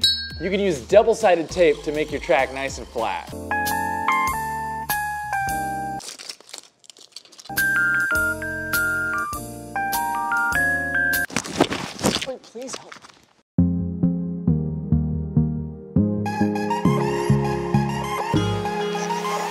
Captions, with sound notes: You can use double-sided tape to make your track nice and flat. (lounge music) (tape dispensing) (lounge music) (tape dispensing) Somebody please help. (techno pop music)